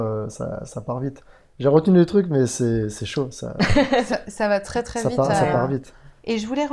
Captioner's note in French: rire